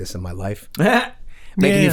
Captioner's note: Glenn chuckles